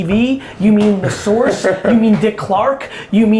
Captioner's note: laughs